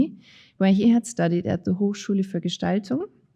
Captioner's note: speaking in foreign language